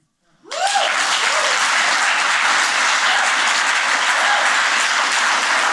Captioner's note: cheers and applause